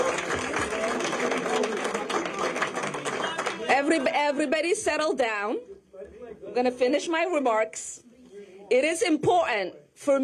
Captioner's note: cheering and applause